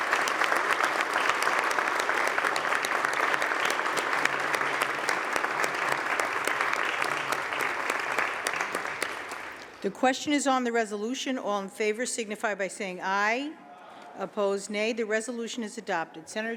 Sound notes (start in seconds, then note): 2.3 applause